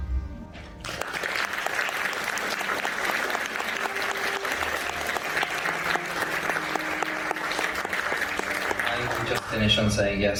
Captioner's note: applause